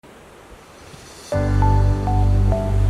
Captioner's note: sea shushing; upbeat music